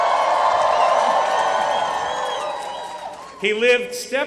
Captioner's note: applause